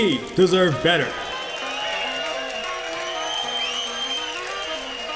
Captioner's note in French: Applaudissement